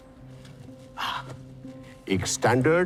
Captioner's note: Murlidharan sighs